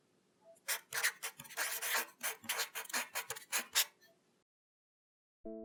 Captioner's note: marker scratching